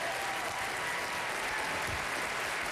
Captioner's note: applause